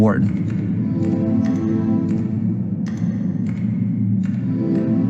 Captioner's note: keyboard keys clacking